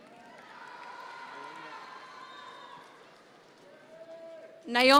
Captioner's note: audience members cheer